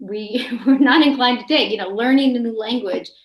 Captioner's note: chuckles